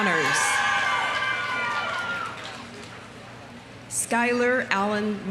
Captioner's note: audience cheering; audience applauding